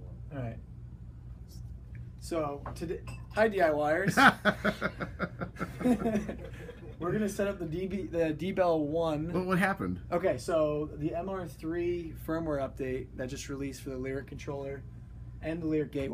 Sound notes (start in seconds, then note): 4.0 laughter